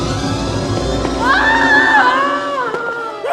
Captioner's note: scream